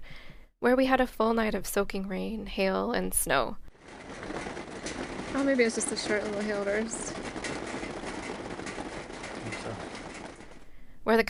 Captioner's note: hail sound